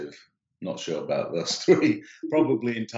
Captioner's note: giggling